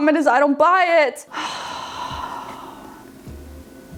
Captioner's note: sighs